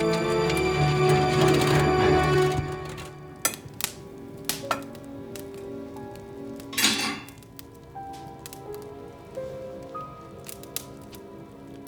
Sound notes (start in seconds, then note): 0.0 engine roaring; 4.1 fire crackling; 4.1 suspenseful music